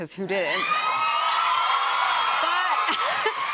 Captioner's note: cheers and applause